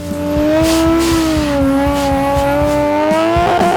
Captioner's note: engine revving